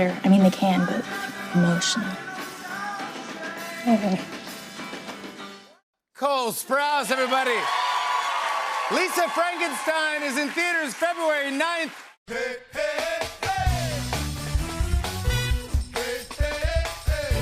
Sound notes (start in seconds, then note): 3.9 whimpers; 6.3 cheers and applause